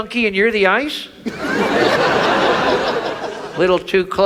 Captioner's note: audience laughs